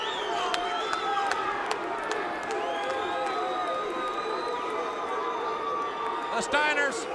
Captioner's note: crowd cheering